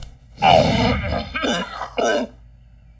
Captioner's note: Clears throat